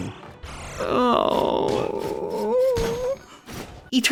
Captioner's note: whimper